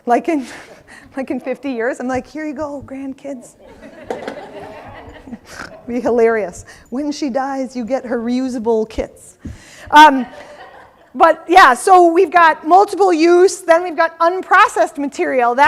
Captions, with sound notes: Like in 50 years, I'm like, here you go, grandkids. (audience laughing) Be hilarious. When she dies, you get her reusable kits. But yeah, so we've got multiple use, then we've got unprocessed material.